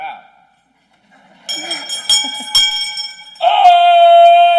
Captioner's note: bell Ringing